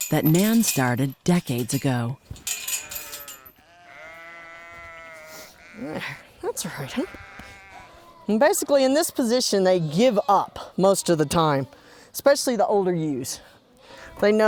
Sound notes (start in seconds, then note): 2.9 sheep bleating; 3.1 clanking; 5.5 sniffles; 7.1 patting